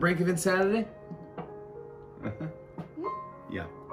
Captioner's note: chuckle